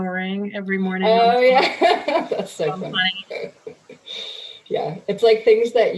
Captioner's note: laughing